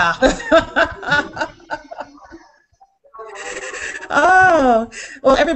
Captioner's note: laughing